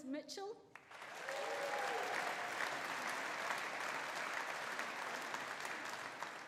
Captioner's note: audience applauding; audience cheering